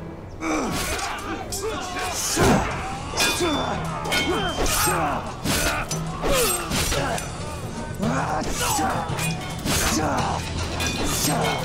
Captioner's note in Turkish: Çarpışma sesleri